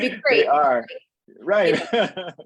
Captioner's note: laughing